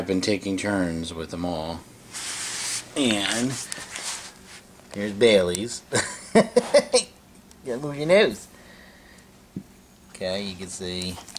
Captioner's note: laughing